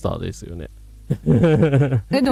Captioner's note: laughter